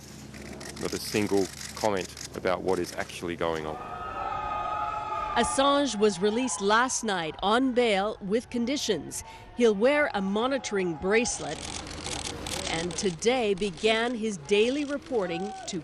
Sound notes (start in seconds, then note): 3.6 supporters cheering